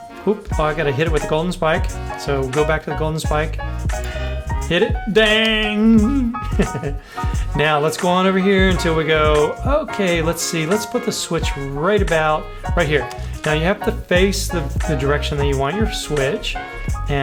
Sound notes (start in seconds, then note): 4.0 metal clanks; 6.7 laughs